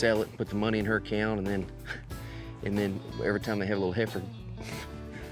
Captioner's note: chuckles